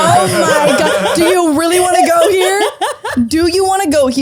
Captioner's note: laughing, unintelligible; laughter